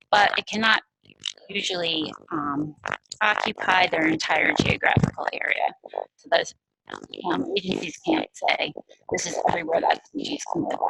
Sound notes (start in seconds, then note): 6.5 static interference